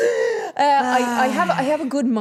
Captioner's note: Steph sighing; laughing